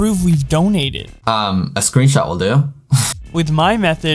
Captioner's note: laughs